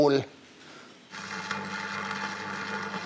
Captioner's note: Knistern